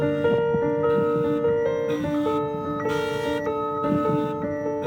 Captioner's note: car alarm blaring